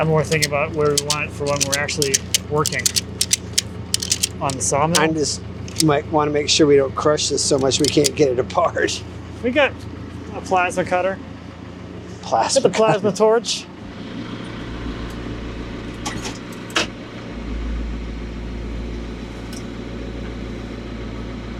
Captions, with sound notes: - I'm more thinking about where we want it for when we're actually working on the sawmill. - I just might wanna make sure we don't crush this so much we can't get it apart. - We got a plasma cutter. - Plasma. - Got the plasma torch. (engine humming) (forklift clunking) (engine humming continues)